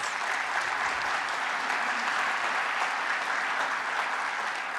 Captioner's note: applause